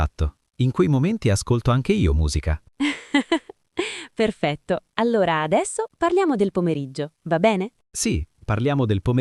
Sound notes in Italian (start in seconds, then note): 2.8 risate